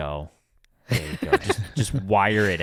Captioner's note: laughing